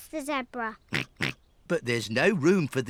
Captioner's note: snorts